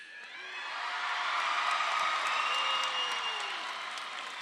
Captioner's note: audience applauding